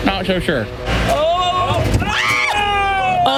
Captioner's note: screams